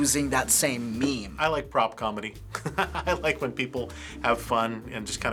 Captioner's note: chuckles